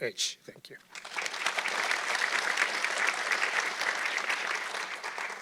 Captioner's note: audience clapping